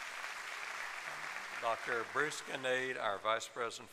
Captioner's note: applause